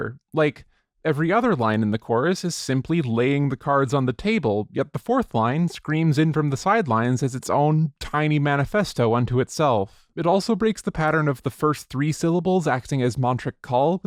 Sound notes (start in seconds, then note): none